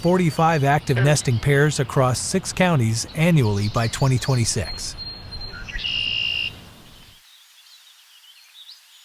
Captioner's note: birdsong